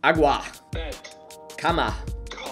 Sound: foreign language

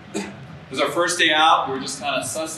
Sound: coughs

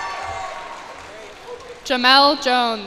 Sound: cheers and applause

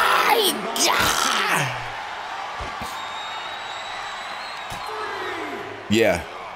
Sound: applause; applause

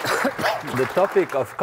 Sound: applause

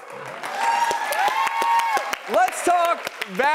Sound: audience cheering; clapping

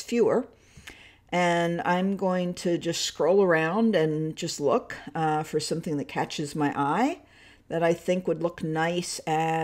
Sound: catches

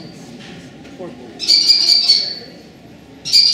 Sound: kestrel Call

